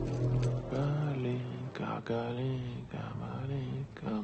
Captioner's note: Nikolai humming